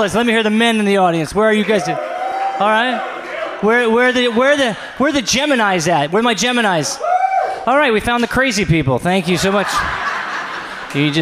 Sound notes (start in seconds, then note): 1.4 audience cheers; 9.2 audience laughs